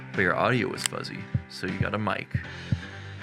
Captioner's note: mic tapping